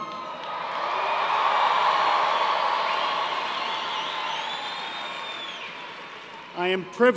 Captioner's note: cheers and applause